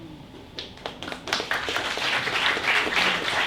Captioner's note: applause